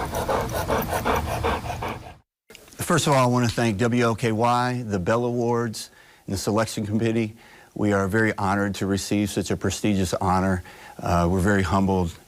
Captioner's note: panting